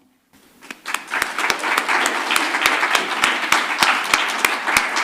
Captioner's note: audience applauding